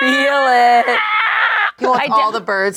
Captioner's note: squeals